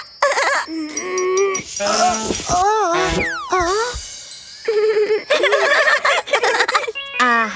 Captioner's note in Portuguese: Risos